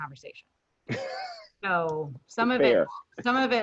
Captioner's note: laughing